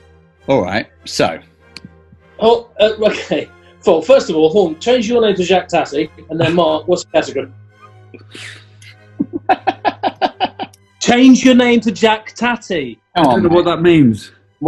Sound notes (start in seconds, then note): 2.3 stumbling; 9.2 giggling